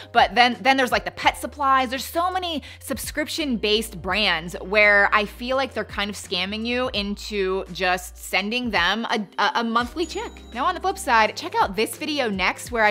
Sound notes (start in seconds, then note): 9.8 cash register dings